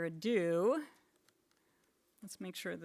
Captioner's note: keyboard typing